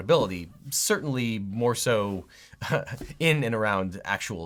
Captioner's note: chuckles